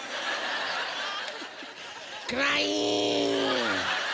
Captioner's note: laughter